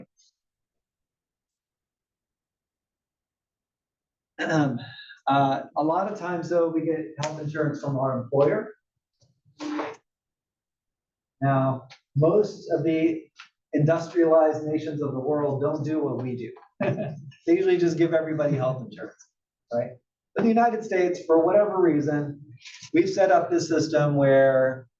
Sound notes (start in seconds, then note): 4.4 cough; 16.8 laugh